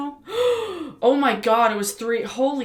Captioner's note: gasp